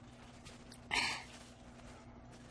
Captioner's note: wiping nose